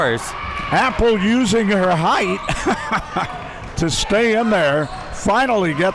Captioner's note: chuckles